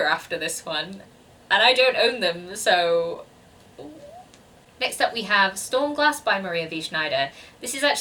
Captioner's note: awkward squeaking